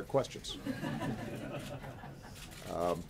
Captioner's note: laughter